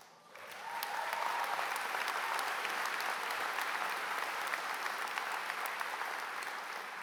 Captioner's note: applause